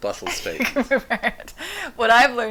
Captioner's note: laughs